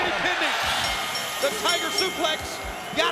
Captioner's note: bell dinging